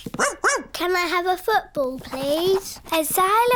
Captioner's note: barks